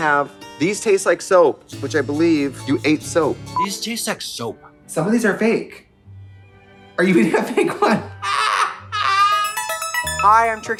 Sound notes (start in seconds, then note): 8.8 Trixie cawing; 9.1 bright electronic music